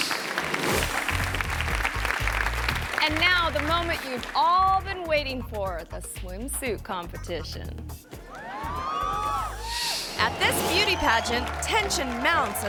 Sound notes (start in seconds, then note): 0.0 audience applauding; 8.2 audience cheering